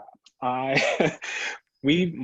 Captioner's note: laughs